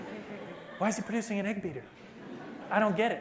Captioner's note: laughter